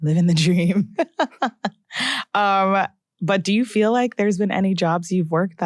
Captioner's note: chuckles